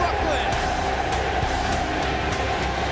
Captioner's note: crowd cheering